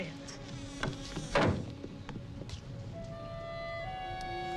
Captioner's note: hinges creaking; door thuds; high suspenseful music